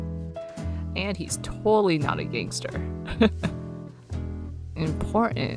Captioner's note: laughs